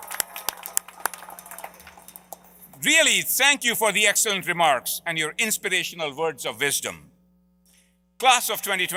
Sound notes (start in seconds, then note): 0.0 applause